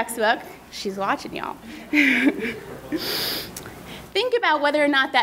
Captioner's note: laughing